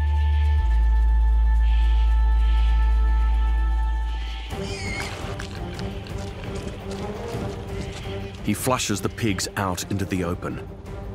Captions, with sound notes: -[dramatic music playing] -[pigs squeal] He flushes the pigs out into the open.